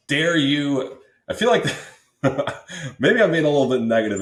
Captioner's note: laughs